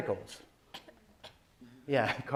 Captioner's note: cough